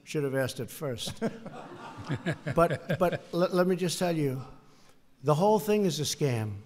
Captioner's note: laughter